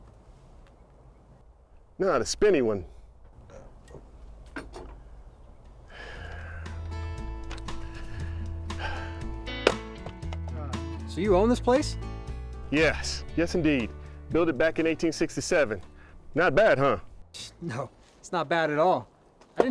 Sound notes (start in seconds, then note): 6.9 soothing music; 7.4 axe thumping